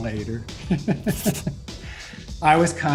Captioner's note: laughing